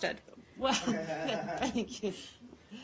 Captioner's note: laughter